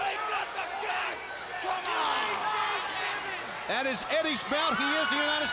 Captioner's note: crowd chatter